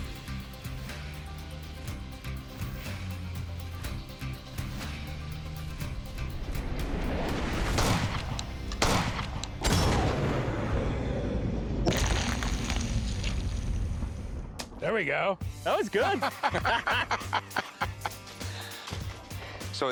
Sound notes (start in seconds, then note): 7.5 gun shots; 16.0 chuckling